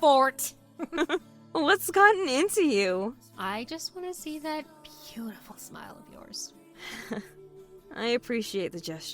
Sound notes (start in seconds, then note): 0.8 laughs; 6.8 sighs